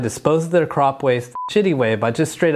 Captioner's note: beep